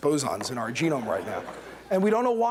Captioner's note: laughter